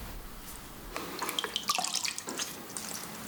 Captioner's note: splashing